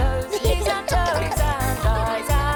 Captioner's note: giggling